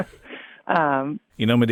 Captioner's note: laughing